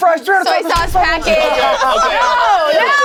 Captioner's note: group laughs